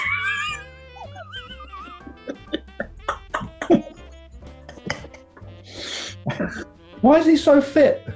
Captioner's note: sniggering and giggling